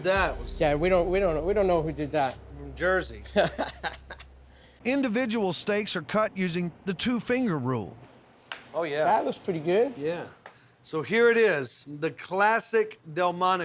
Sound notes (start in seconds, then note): 4.8 laughs